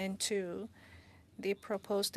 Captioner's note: speaking French